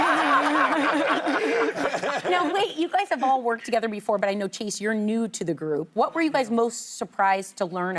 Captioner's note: laughter